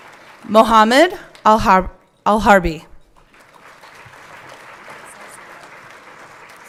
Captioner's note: everyone clapping